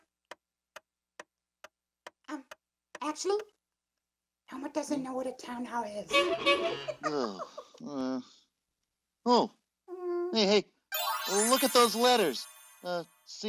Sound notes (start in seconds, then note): 0.3 clock ticking; 6.1 horn beeping